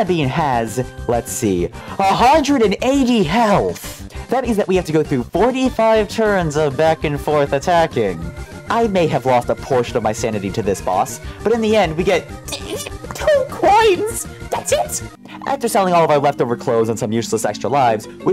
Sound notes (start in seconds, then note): 12.4 angry sounds